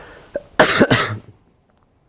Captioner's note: cough